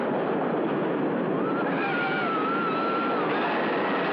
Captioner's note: screaming